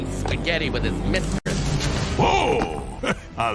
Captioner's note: chuckles